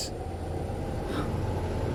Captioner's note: wind howling; Emma gasping